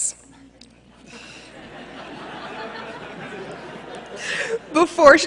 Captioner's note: laughter